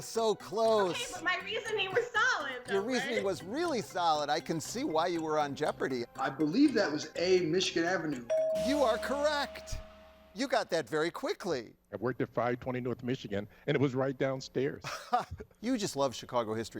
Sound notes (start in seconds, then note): 8.2 bell chimes; 14.8 laughs